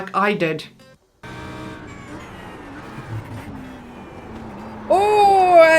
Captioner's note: engine revving